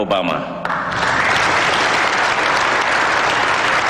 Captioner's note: applause